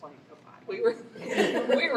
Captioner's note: laughter